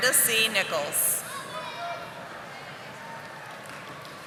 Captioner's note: audience applauding